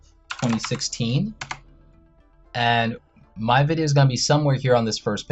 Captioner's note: keys clicking on keyboard